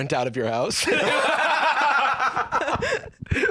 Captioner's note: all laughing